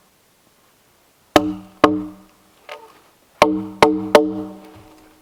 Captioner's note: mallet thumping